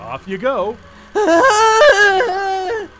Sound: Catholic Guilt Warble

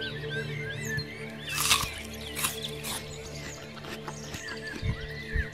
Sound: snap, snap, bite and chewing

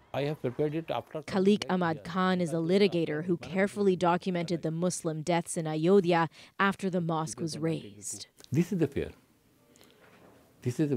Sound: speaking alternate language

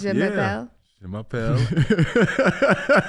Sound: Iman speaking in French; laughing

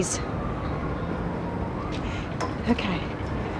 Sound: siren wailing

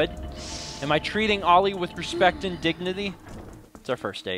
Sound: sigh

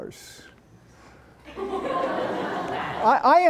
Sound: laughter

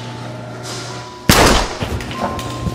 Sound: gunshot

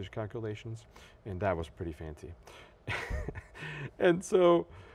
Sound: laughs

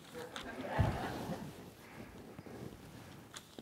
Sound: laughter

